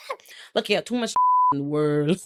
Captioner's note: beep